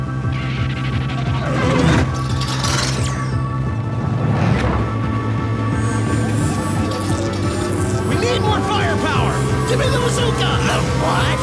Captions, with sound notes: *HYPE TUNNEL CHARGING* We need more firepower! Gimme the bazooka! The WHAT?!